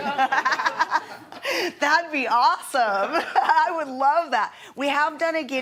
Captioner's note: laughing